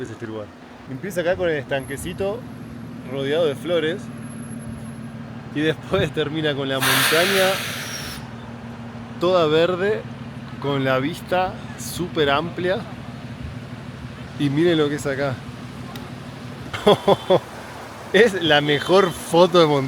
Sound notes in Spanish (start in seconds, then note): 14.2 risas